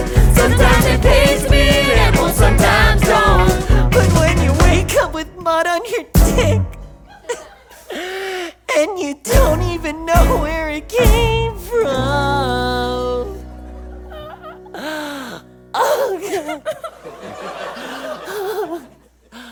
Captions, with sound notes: Sometimes it pays to be an animal, sometimes don’t! But when you wake up with mud on your dick and you don’t even know where it came from... Oh god...[crying]